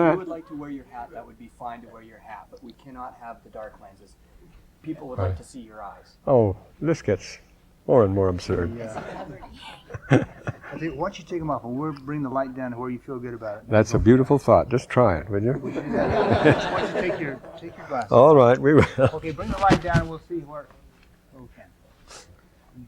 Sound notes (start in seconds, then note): 15.6 laughter